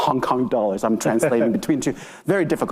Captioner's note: participant chuckling